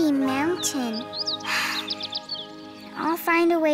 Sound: birds chirping

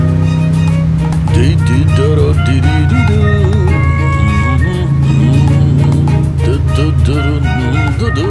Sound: humming

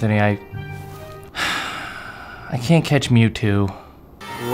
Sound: sighs

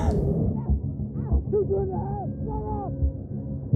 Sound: kim grunts

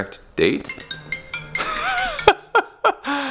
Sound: phone rings; laughs

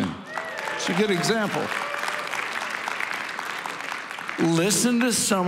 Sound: congregation applauding

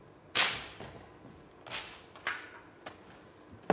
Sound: paper snaps

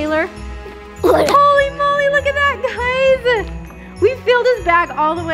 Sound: grunts

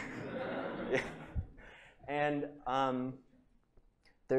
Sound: laughter

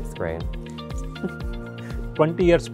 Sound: laughs

